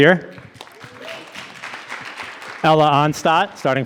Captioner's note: audience applauding